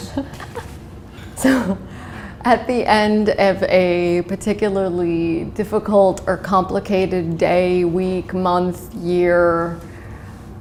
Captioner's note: chuckle